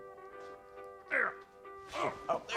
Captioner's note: groaning